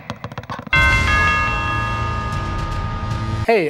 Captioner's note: bell dings